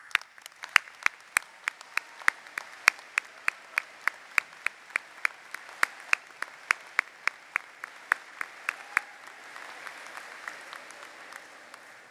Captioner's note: applause